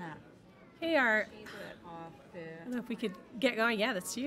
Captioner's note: overlapping chattering